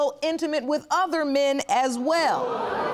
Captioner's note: audience gasping